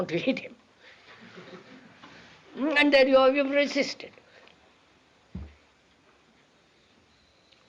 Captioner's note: laughter